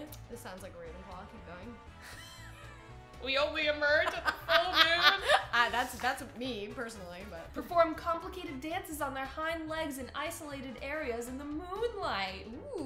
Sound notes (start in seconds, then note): 4.0 laughs